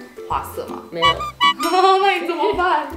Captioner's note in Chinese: 尬笑